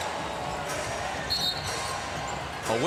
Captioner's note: whistle blows